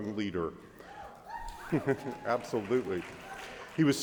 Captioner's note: audience cheers